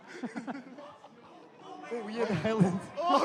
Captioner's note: laughter